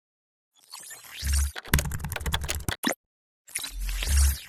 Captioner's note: typing sound